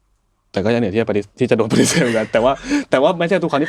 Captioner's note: laughs